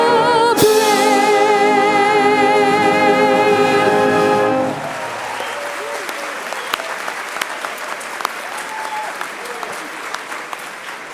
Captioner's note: applause